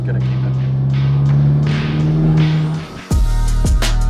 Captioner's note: engine roaring; upbeat music